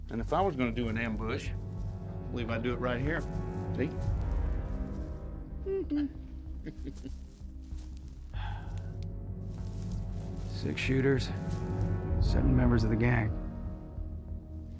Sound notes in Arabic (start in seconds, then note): 5.7 صوت بيكابو; 8.3 تنهدات